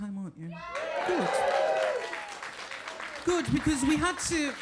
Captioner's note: audience cheering